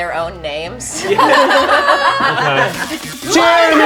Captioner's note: group laughs